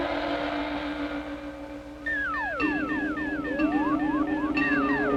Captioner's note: satellite beeping